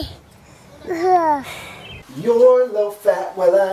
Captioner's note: sighs